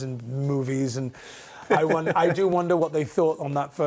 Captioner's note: laughs